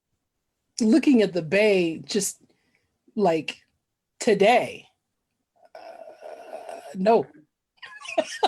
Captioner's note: laughs